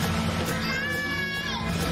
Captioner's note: girl screaming; water splashing